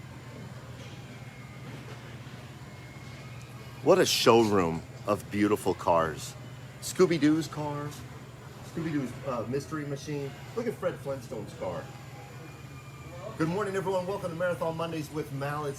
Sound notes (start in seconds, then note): none